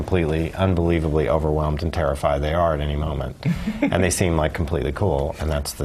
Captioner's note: laugh